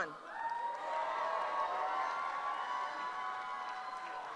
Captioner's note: cheering